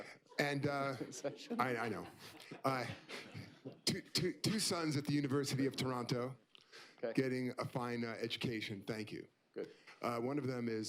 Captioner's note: laughs